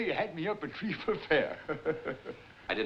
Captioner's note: chuckles